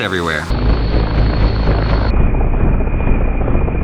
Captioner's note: wind roaring